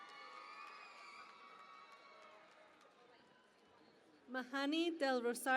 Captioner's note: cheering and Applause